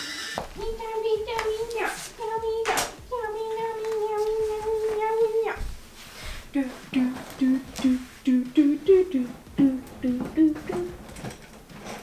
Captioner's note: humming song